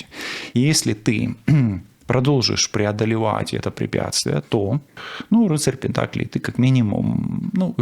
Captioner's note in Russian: откашливается